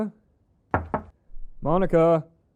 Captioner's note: knocking